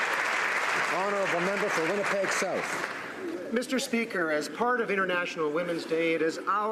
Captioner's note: applause